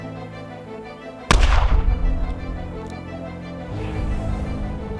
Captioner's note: gunfire booming